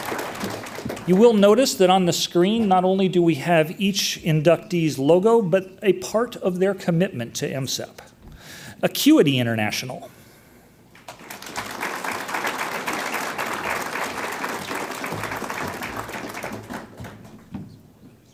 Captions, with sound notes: You will notice that on the screen, not only do we have each inductee's logo, but a part of their commitment to MSEP. Acuity International. (audience applauds)